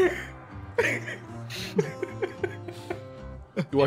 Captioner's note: laugh